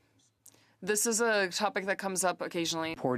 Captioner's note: speaking French